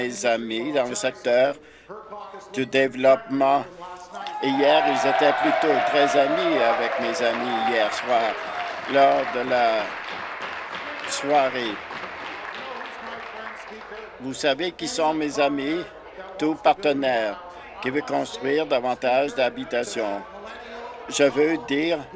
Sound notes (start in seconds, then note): 14.3 applause